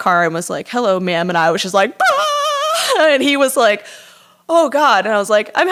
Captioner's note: screaming crying